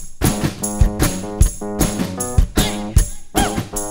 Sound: rhythmic clapping

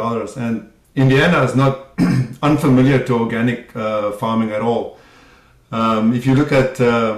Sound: cough

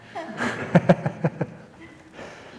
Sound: laughter

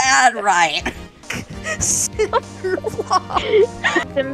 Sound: laughing

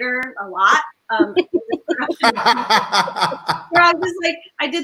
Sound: all laughing

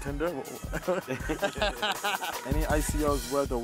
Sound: laughs

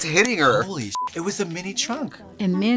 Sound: beep

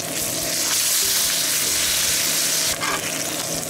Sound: sizzling

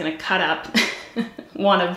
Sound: giggles

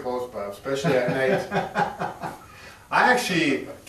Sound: laughs

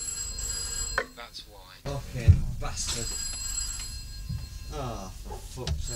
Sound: phone ringing, muttering

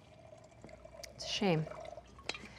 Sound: A sound of brandy being poured

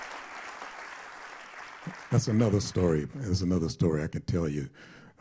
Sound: applause

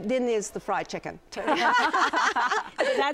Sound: laughter

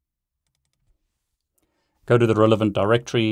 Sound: mouse clicking

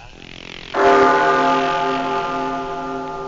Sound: the sound of bells

